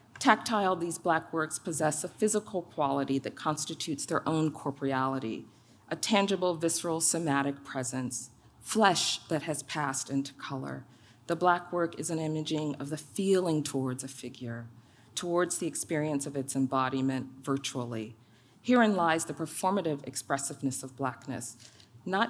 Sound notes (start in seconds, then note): none